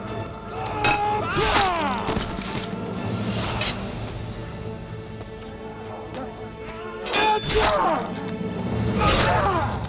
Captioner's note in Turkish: Savaş sesleri